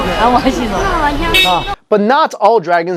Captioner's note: long car beep; crowd murmuring in Mandarin